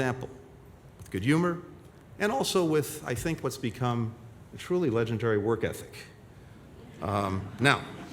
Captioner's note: laughter